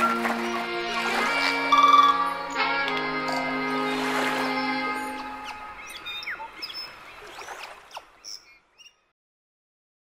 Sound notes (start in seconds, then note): 0.0 slow instrumental music; 3.6 water flowing; 5.6 birds chirping